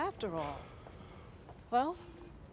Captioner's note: sighs